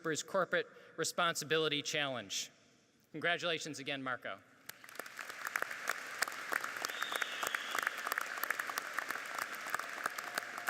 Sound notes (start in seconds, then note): 4.7 audience applauds